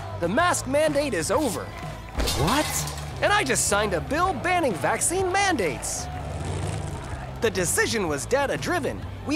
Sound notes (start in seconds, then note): 6.6 cheering